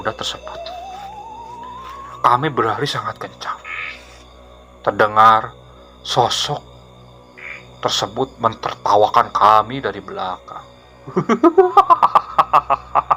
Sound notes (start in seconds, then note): 11.1 laughs